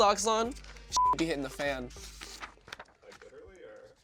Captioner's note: beep